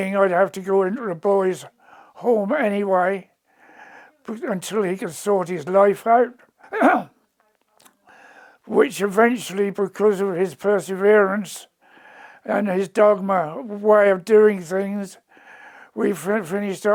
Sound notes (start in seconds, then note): 6.6 coughs